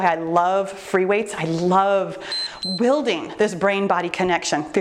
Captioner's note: timer beeps